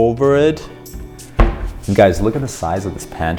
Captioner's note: door thuds